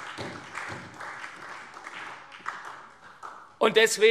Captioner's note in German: Beifall SPD, CDU und Freie Demokraten